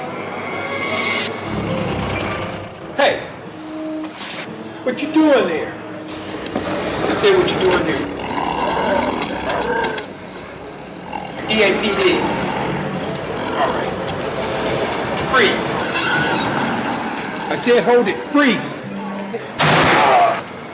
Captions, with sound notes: [eerie sound] Hey, what you doing there? I said what you doing there? [roaring sound] NYPD Freeze! I said hold it, freeze. [gunshot]